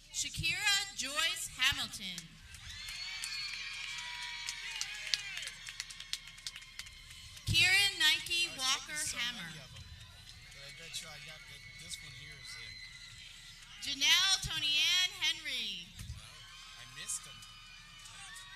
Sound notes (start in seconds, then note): 3.0 people cheering; 9.6 people cheering; 16.6 people cheering